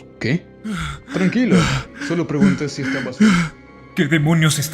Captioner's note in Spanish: Respiracion agitada